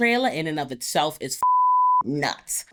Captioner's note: beep